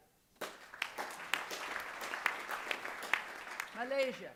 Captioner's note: applause